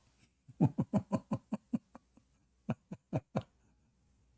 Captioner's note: Ketawa